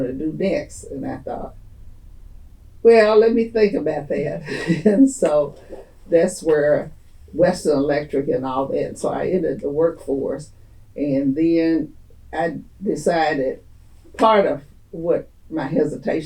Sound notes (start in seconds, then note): 4.4 laughs